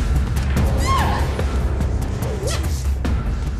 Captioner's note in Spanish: Grito